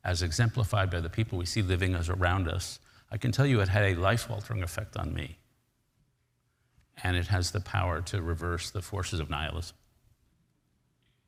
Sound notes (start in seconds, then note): none